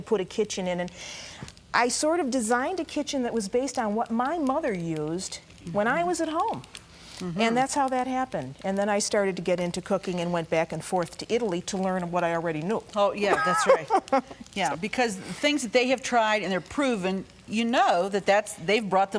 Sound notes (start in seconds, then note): 13.3 laughing